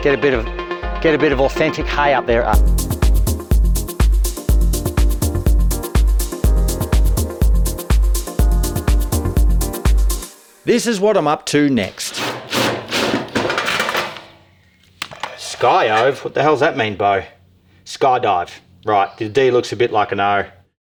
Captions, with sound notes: Get a bit of, get a bit of authentic hay up their a- [funky outro music] [drilling noises] Sky oive? What the hell does that mean Beau Sky dive Right, the D looks a bit like an O